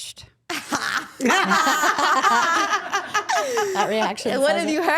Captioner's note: all laughing